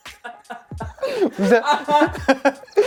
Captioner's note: laughs